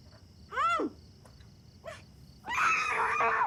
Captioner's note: scream